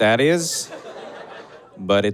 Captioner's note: audience chuckles